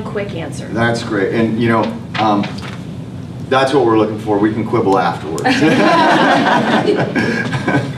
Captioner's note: laughter